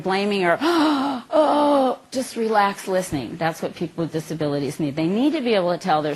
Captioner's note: sigh